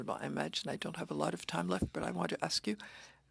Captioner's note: speaking French